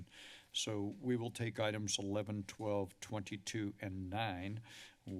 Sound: inhales; inhales

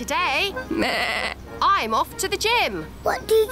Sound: bleats

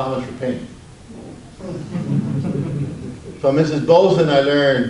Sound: audience laughs

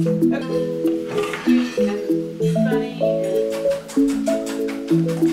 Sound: clattering

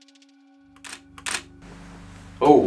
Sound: camera flash

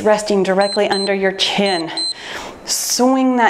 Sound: timer beeps

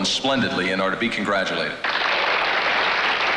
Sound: audience applauds

